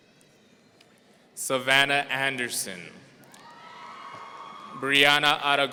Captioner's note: audience cheering